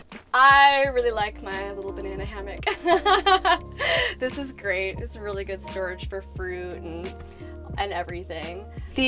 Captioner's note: laughter